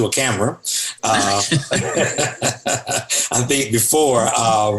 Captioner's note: all laughing